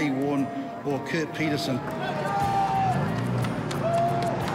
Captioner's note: cheering, applause